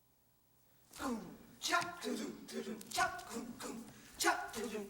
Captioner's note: all vocalizing